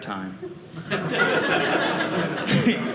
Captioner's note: audience laughing